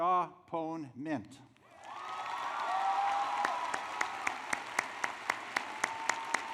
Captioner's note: applause